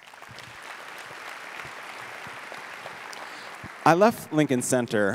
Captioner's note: audience applauds